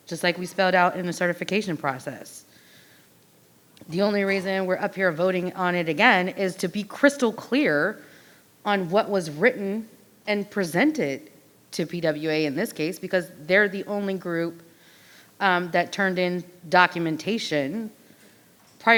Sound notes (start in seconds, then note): none